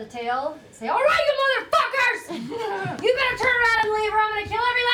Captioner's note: shouting